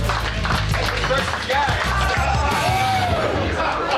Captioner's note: shouting